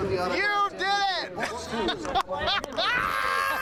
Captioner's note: laughs